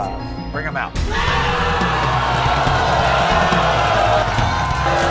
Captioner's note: audience cheers and boos